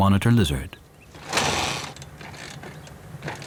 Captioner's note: motorbike engine splutters